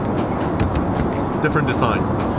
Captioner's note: hand tapping